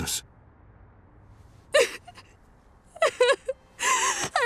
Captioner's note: crying